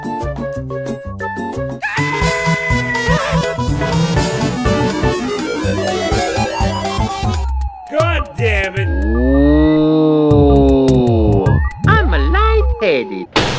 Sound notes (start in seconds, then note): 1.8 screaming